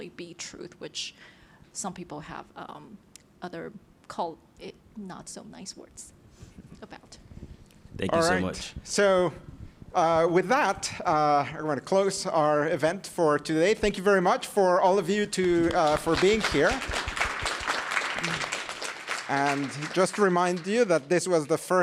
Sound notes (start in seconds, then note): 17.0 applause